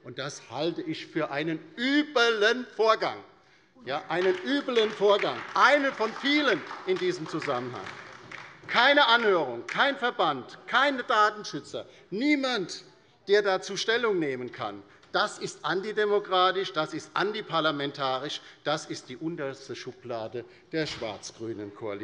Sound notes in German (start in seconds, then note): 8.1 Beifall bei der LINKEN